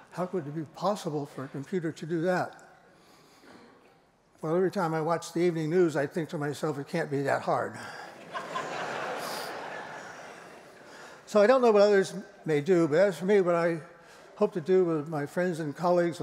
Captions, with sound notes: How could it be possible for a computer to do that? Well, every time I watch the evening news, I think to myself, it can't be that hard. [LAUGHTER] So I don't know what others may do. But as for me, what I hope to do with my friends and colleagues